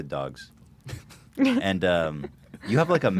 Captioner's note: chuckle